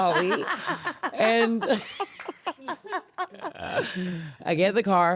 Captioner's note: laughing